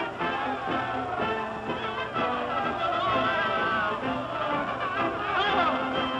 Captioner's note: cheering